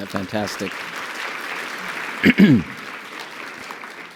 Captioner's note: audience applauds